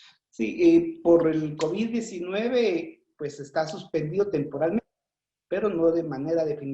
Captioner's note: speaking foreign language